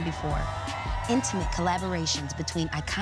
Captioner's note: crowd cheers